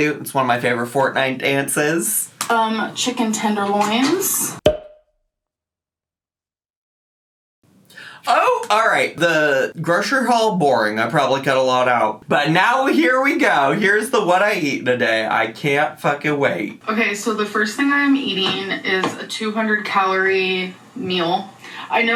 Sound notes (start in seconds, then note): 0.0 scatting; 4.6 cork popping